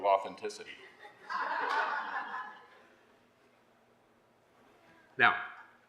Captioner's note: laughter